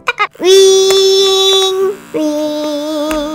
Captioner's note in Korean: 위이잉~; 위이잉